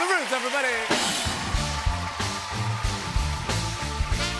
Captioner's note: cheers and applause